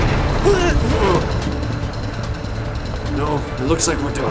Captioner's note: grunting